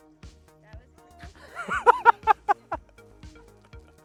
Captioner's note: laughing